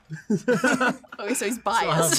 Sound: everyone laughs

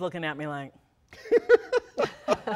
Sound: laughter

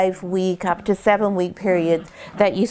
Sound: Choco growls

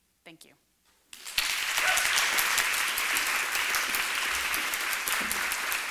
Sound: applause

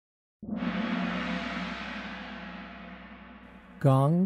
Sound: gong sound

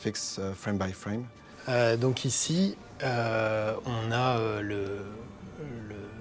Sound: in french

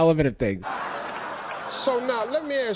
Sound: crowd laughing

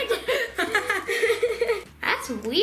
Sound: laughing

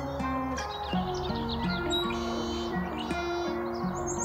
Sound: birds chirping

